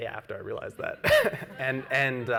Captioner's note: laughs